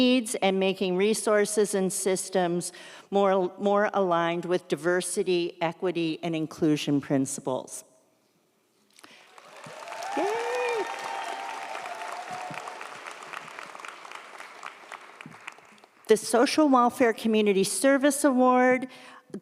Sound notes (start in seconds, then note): 9.1 audience applauds; 9.3 audience cheers